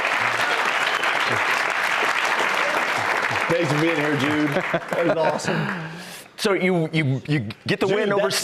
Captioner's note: cheers and applause